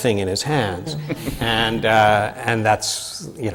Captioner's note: laughter from the panel